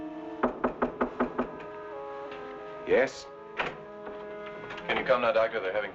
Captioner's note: knocking On Door